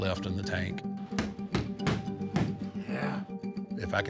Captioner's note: gloves thudding